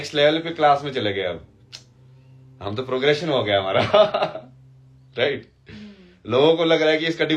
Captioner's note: हंसी